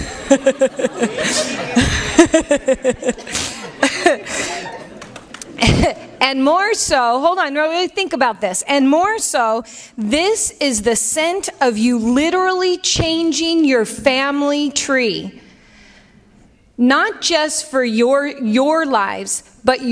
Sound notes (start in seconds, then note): 0.0 laughs